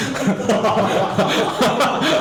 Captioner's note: laughing